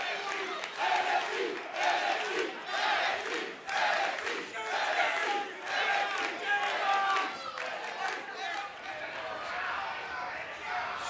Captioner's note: fans chanting